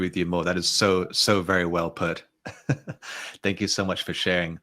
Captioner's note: chuckles